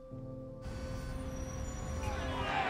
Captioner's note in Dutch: verkeersgeluiden; demonstranten schreeuwen